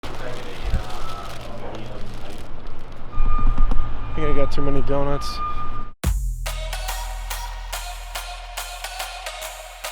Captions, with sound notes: (paper crinkling) - I think I got too many donuts. (upbeat electronic music)